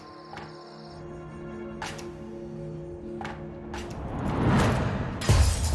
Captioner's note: tapping; shatters